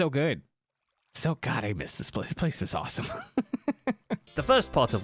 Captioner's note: laughs